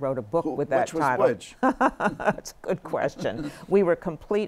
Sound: laughter

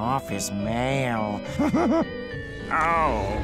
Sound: chuckles

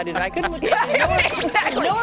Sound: laughter

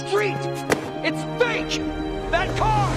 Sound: foot slaps

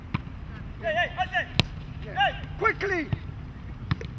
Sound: players shouting

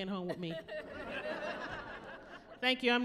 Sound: laughing

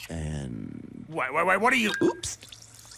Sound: coin drops into bottle

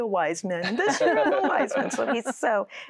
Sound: laughter

